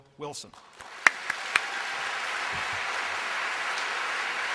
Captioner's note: applause